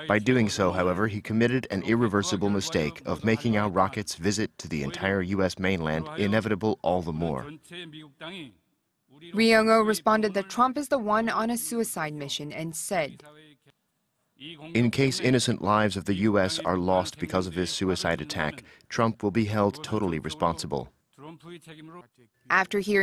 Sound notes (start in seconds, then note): 13.6 Korean